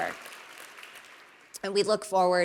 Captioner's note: applause